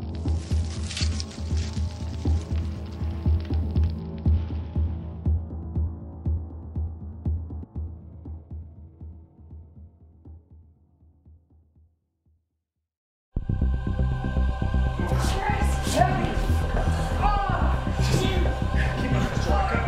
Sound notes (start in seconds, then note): 15.3 yelling